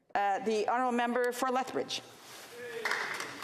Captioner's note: speaking French